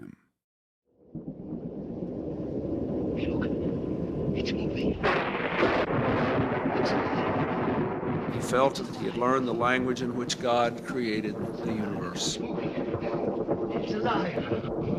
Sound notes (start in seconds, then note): 3.3 soundbite of thunder cracking; 8.2 soundbite of archived recording